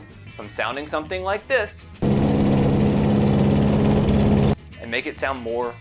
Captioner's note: loud lawnmower rattling